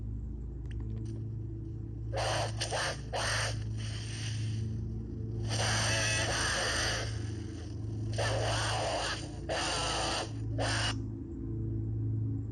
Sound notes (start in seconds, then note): 2.2 horrible, absolutely dreadful screeching